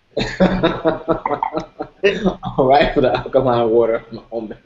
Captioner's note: laughter